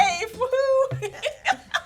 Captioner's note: laughs